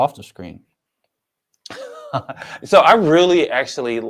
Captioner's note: chuckles